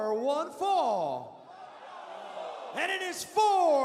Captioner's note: crowd cheering